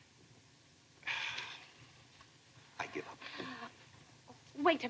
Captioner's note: sighs